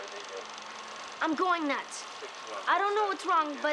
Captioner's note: chattering On Film